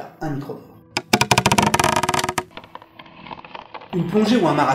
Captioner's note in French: bruit d'un arbre qui menace de tomber